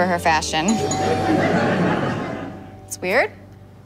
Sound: doorbell rings

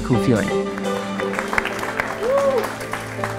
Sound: clapping

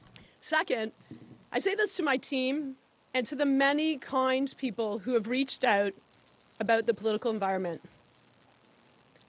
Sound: speaking French

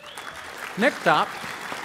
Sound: applause

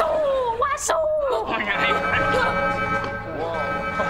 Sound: alarm blaring

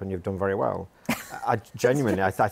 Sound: chuckles

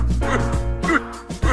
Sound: henchman noises

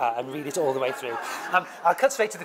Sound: laugh

